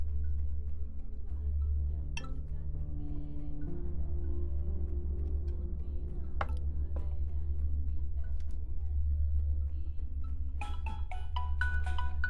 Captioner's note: ringing continues